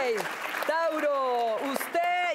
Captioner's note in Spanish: Aplausos